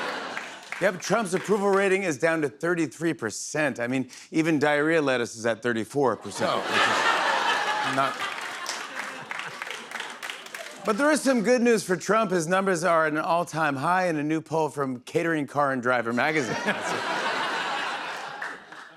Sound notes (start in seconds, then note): 6.2 laughter and applause; 16.2 laughter